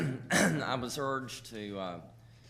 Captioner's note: clearing throat